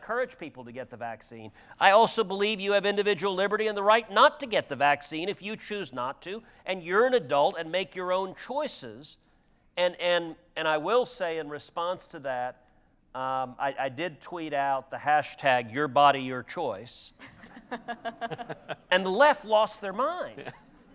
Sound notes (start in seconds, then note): 17.2 audience laughter